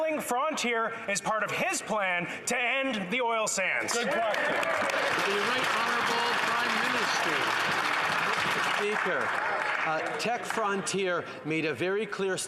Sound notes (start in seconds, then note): 7.4 some Applause